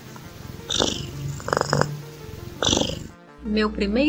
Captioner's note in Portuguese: ronrom